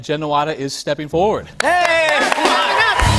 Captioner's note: cheers and applause